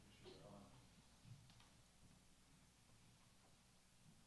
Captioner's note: speaks off mic